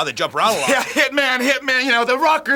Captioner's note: chuckling